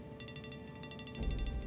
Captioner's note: phone ringing